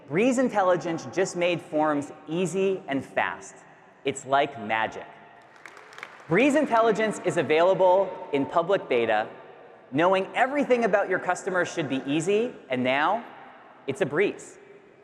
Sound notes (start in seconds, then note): 5.4 audience clapping